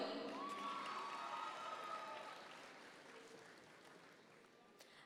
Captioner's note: audience members cheer